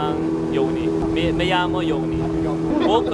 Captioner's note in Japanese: スペイン語